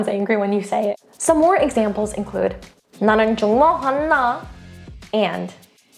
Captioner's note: speaks in Korean; speaking in Korean